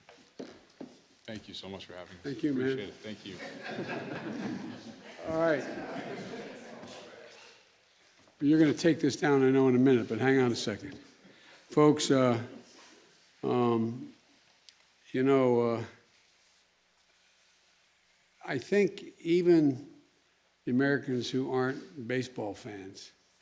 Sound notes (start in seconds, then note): 3.2 laughter